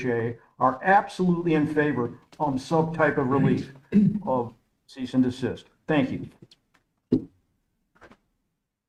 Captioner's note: clears throat